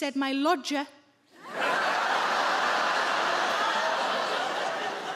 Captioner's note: audience laugh